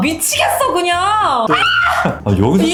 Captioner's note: kyaaaaaa